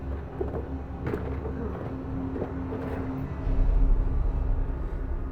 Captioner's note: tense music continues; objects clattering; tense music